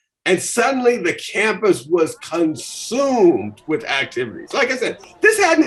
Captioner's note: music and ambient crowd noises increase in volume